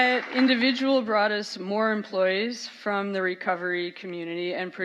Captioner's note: applause